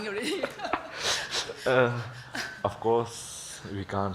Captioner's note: laughs